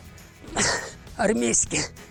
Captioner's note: exhales